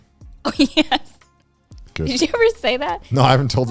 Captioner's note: laughs